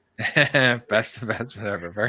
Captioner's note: laughs